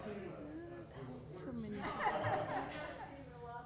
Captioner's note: laughter